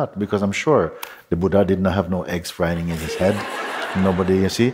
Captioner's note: laughter